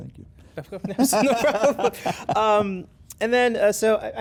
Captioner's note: both laugh